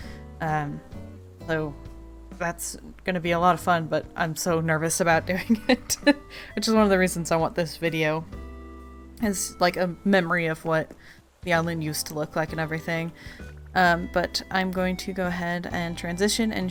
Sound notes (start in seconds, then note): 5.4 laughs